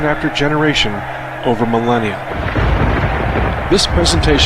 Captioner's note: canon fires